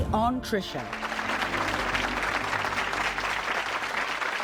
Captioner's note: crowd clapping